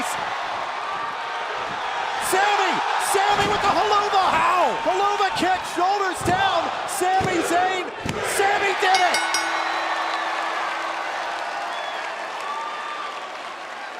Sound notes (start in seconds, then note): 8.9 bell; 10.1 cheers & applause